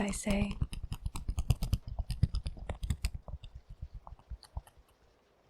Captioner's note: fan tapping